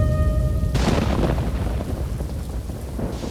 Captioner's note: thunder rumbling